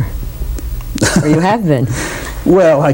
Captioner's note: laughter